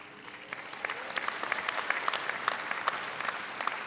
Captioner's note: audience applauds